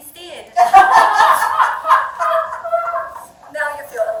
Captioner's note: audience laughing